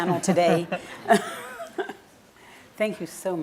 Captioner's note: laughing